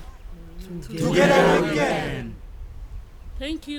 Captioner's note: crowd